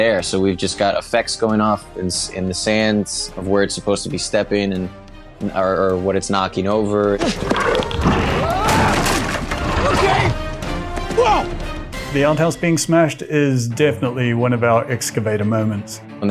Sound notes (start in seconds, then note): 7.2 outhouse explodes